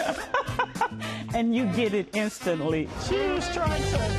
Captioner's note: laughs